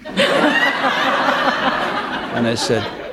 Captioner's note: laughter